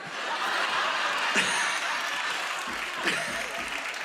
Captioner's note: laughter